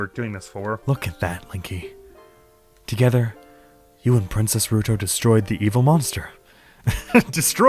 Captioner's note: laughs